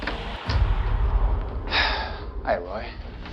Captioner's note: sighs